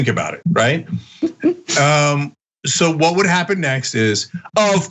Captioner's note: laugh